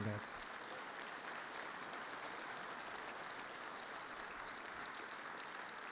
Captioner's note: applause